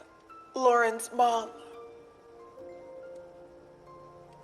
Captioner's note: amplified voioice